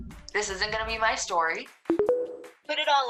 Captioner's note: tones